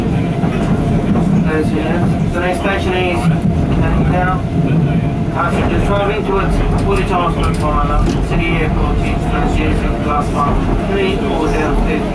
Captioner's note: train Operator Announcement